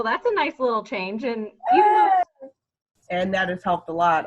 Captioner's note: vocalizes